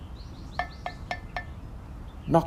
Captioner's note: knocking sound